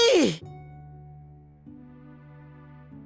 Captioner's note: silence